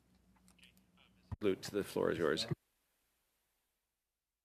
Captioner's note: speaking French